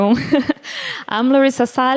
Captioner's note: laughter